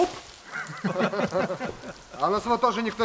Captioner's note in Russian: смех